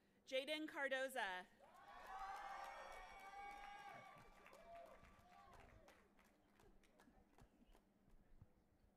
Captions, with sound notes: - Jayden Cardoza. (audience applauding and cheering)